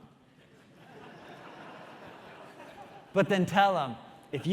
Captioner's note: audience laughing